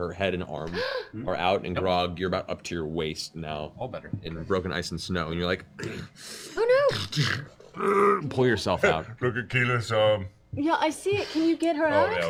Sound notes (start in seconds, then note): 6.8 grunts